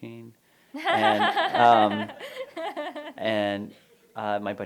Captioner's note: laughter